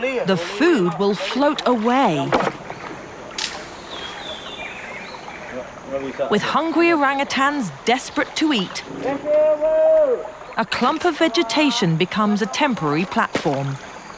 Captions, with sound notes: The food will float away. (birds chirping) With hungry orangutans desperate to eat, (man yelling) a clump of vegetation becomes a temporary platform.